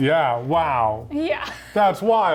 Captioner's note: laughs